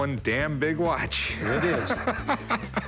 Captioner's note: laughs